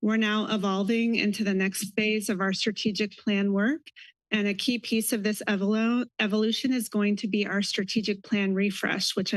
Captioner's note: none